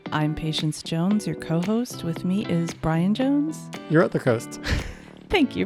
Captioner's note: chuckles